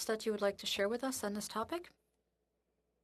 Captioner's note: speaking French